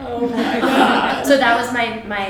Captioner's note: audience laughs